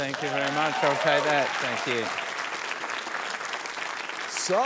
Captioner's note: cheering, applause